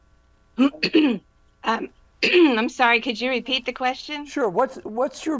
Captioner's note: clear throat